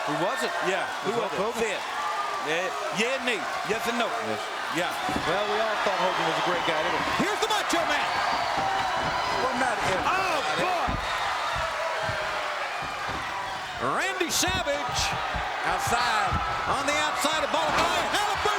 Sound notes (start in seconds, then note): 9.1 crowd cheering